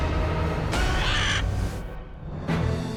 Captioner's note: bird squawks; triumphant music